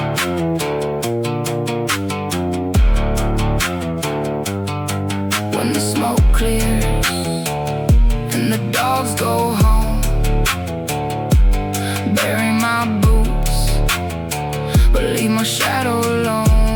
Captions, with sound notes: When the smoke clears… (Pause. Guitar squeaks.) and the dogs go home… (Pause. Heartbeat kick.) bury my boots… but leave my shadow alone.